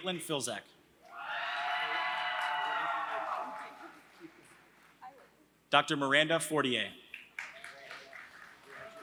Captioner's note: applause